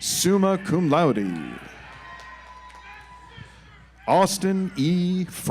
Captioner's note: audience applauds